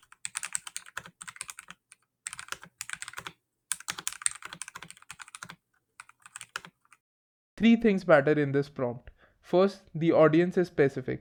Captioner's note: typing sounds